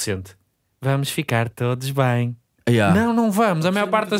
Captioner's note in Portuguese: voz infantil